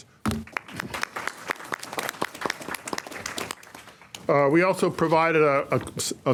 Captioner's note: applause